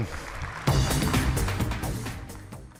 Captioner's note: audience applauds; rock music plays